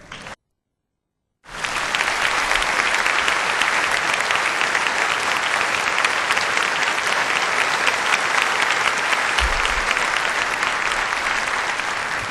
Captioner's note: applause